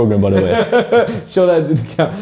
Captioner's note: laughs